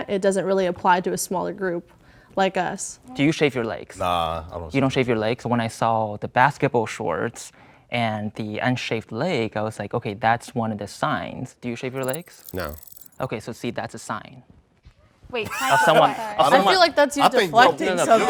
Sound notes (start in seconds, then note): 15.4 all laughing